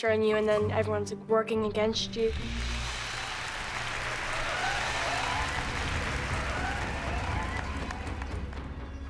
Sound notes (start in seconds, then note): 2.2 crowd cheering, applauding